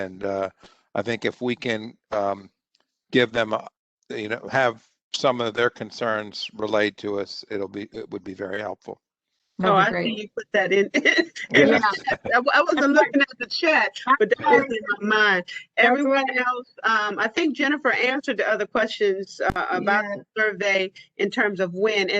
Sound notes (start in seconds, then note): 11.4 laughter